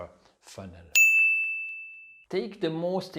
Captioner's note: pinging sound